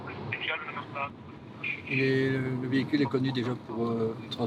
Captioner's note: French spoken audio